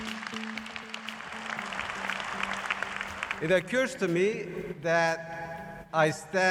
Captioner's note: applause